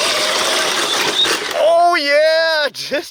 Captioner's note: engine roars